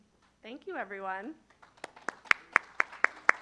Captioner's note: applause